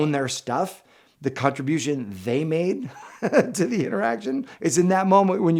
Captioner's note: chuckles